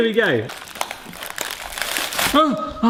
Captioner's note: brownies cracking